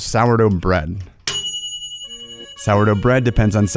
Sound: ding

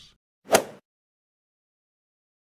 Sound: swoosh

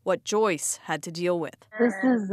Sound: speaking indigenous language

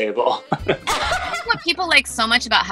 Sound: laughing

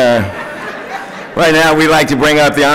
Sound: laughter

